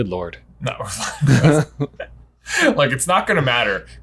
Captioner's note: laughs